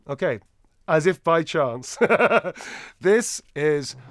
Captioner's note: laughs